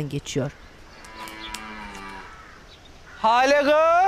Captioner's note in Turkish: Kuş cıvıltısı sesleri; İnek möleme sesi